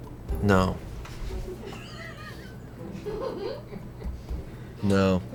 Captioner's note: colleagues laughing